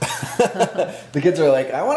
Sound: laughing

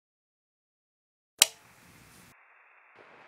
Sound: click

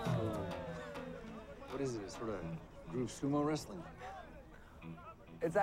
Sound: Raj laughing

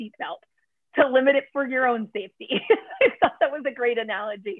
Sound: laughter

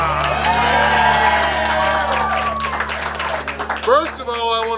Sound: cheering & Clapping

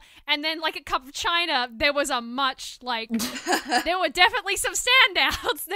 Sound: laughs

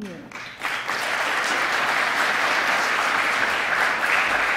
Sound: applause

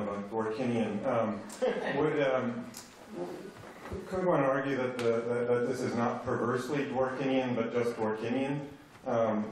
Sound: laughter

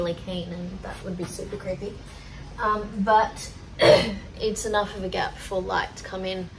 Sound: clears throat

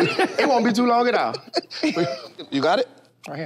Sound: group laughs

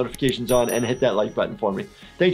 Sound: bell dinging

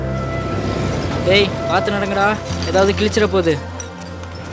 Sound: kids chatter

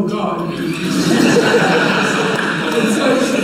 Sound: laughter from audience

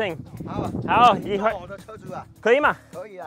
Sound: speaks in foreign language

